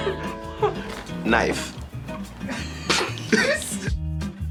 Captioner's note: laughs